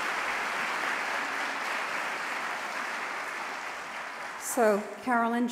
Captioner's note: applause